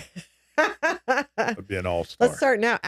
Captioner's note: laughing